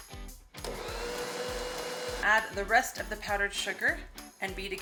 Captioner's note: mixer whirring